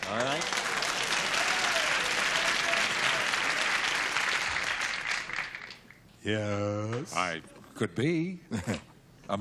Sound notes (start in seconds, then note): 1.7 applause